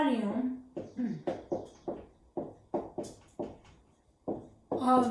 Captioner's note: writing Sounds